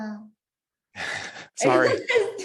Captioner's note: chuckles